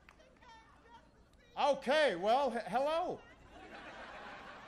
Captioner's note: applause